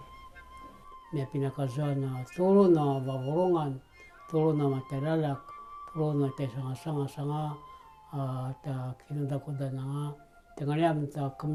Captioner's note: in Indigenous language